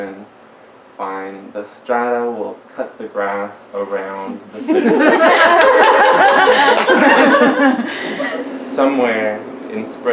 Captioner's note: laughter and applause